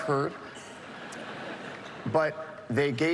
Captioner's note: laughter